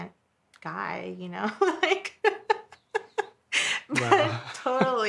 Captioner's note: laughing